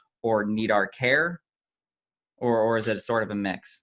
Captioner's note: none